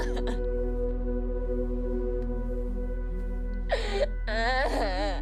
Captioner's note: sobbing continues; Robyn humming melody